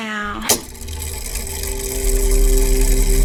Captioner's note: mechanical whirring